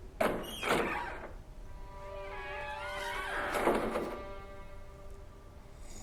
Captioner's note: door creaks; mellow music